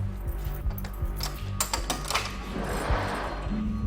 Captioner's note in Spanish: Sonido al abrir la puerta